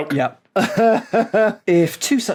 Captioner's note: laughs